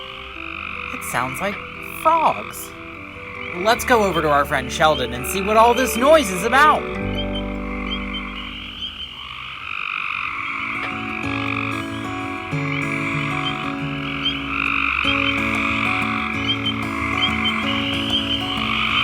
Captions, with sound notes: It sounds like frogs. Let's go over to our friend, Sheldon, and see what all this noise is about! (acoustic guitar music) (frogs trilling and peeping)